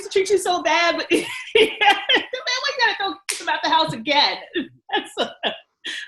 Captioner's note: laughs and speaks indistinctly